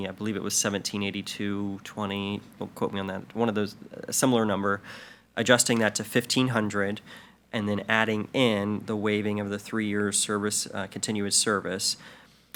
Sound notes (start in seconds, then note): none